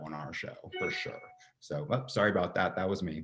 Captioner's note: beeping sound